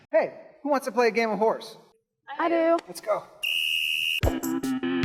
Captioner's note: whistle blows